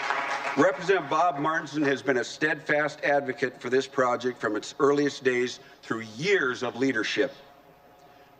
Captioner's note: applause